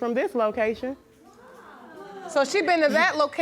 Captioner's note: audience murmuring